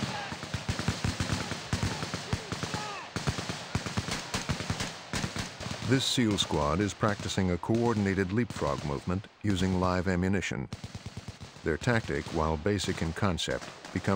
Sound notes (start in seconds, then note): 0.3 rapid, continuous gunfire; 3.6 rapid, continuous gunfire; 5.9 voiceover